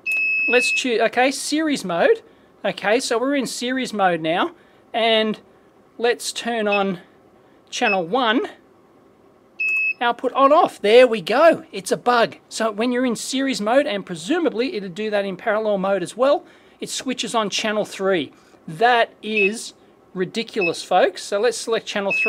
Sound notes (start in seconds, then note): 6.3 beeps; 16.3 beeps